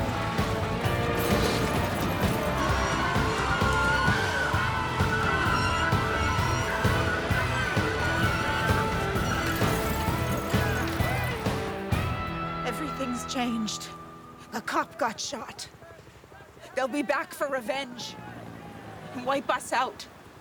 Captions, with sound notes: (metal clanging) (tires screeching) - Everything's changed. A cop got shot. They'll be back for revenge and wipe us out.